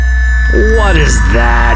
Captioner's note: loud exhaust noises